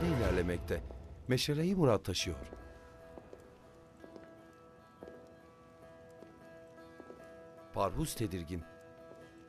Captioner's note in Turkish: Ayak sesi